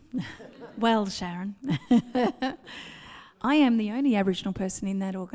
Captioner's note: laughs